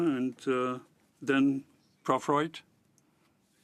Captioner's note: speaking French